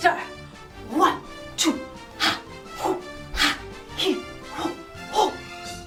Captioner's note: heavy breathing